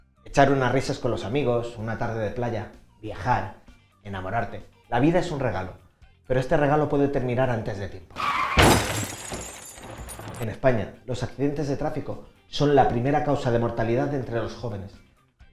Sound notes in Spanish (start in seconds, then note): 8.1 sonido de accidente